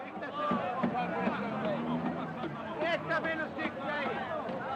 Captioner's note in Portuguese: Batidas ritmadas no ônibus